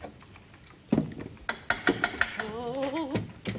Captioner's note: knock on door